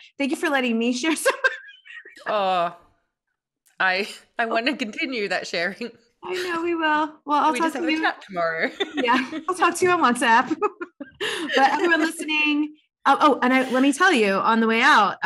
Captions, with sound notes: Thank you for letting me share some of that. (laughs) - I wanna continue that sharing. (chuckles) - I know we will. - We just have a track tomorrow. - Yeah, I'll talk to you WhatsApp. (both laughs) But everyone listening, oh, let me tell you on the way out,